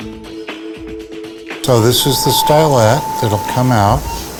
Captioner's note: voiceover